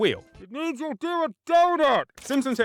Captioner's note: away from mic